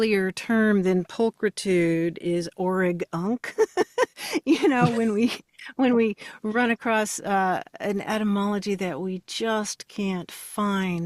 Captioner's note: laughs